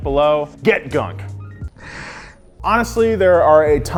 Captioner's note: sniffs